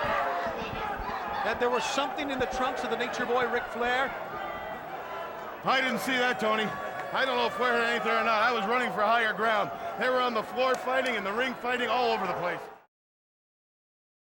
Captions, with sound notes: that there was something in the trunks of The Nature Boy Ric Flair. (crowd murmuring) I didn't see that, Tony. I don't know if Flair had anything or not, I was running for higher ground. They were on the floor fighting, in the ring fighting, all over the place.